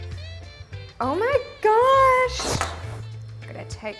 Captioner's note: metal clanking